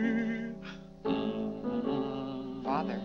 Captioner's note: Mr. Day hums